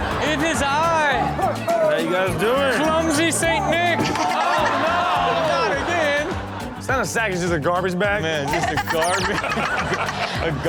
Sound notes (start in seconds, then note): 3.9 audience laughing; 8.5 Chanel laughs